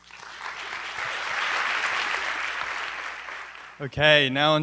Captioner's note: applause